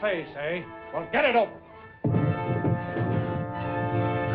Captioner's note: thumping